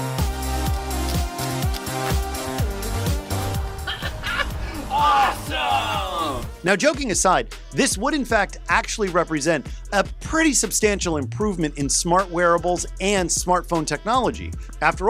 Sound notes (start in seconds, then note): 0.2 upbeat electronic music; 3.6 laughs